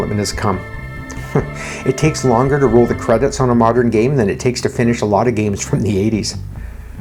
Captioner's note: chuckles